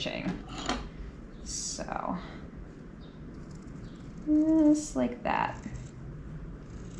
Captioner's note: scissors snipping